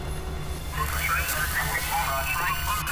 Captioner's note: radio chatter